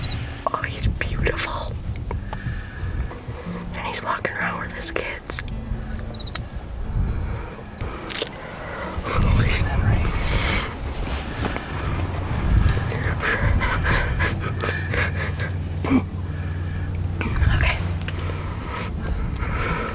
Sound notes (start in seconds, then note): 6.7 giggling